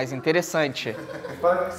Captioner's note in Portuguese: risadas